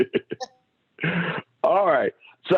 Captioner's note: laughter